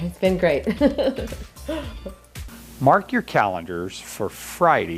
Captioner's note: laughing